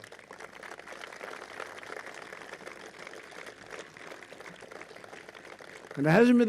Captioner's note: applause